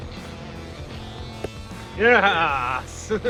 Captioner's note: tire pops